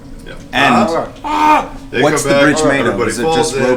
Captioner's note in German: schreit